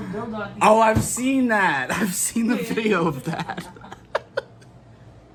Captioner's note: laughing